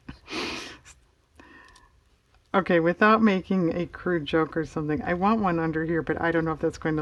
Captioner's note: laughs